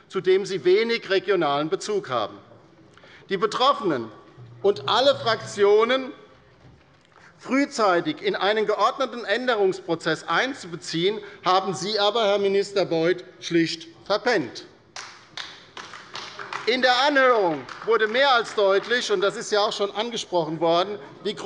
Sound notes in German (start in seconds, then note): 14.9 Beifall bei der LINKEN